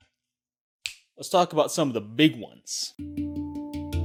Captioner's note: fingers snap; upbeat music